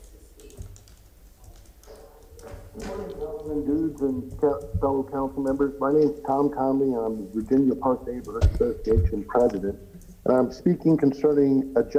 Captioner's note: off microphone